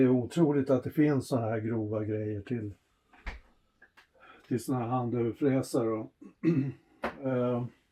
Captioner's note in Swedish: harklar sig